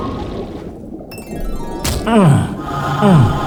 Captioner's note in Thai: เสียงลูกแก้วกระแทกพื้นทราย